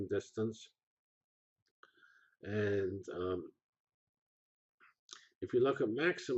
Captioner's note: pause